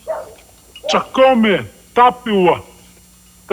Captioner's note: speaking native language